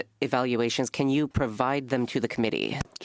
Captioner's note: speaking French